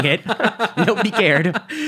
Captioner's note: laughing